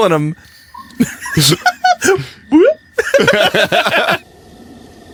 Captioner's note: laughs